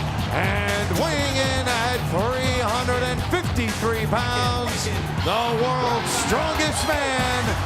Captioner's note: crowd cheering; music blasting; bell rings